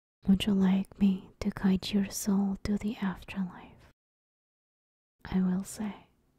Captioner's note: none